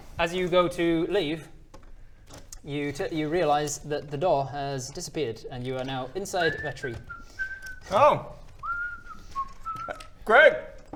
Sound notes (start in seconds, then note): 8.6 innocent whistling